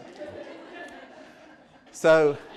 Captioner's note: laughter